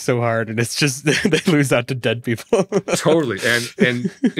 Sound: laughs

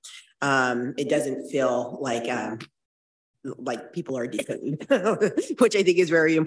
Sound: laughs

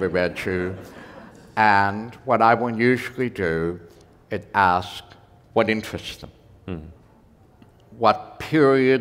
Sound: laughter

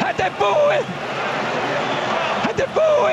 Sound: crowd cheering

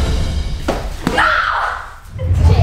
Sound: screams

